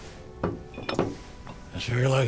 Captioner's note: bottle thuds